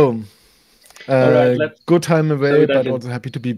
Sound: faintly speaks

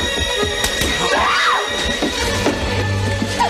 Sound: Meg screams

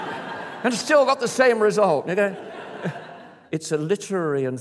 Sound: laughter

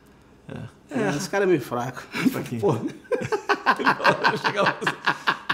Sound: laughs

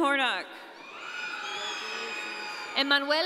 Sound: audience cheering

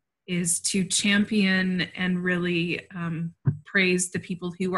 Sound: none

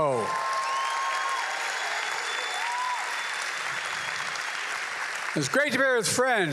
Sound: applause

